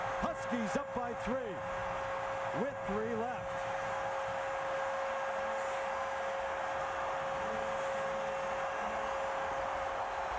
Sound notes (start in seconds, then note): 0.0 cheering, applause; 3.9 cheering, applause